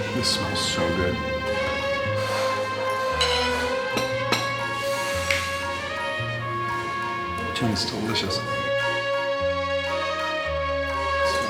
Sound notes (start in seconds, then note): 1.8 elegant music; 3.1 silverware clinking; 4.5 inhaling; 5.2 snapping finger; 9.1 elegant music